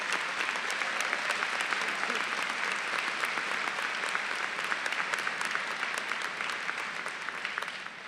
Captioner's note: applause